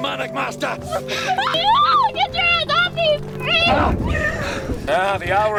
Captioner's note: yelling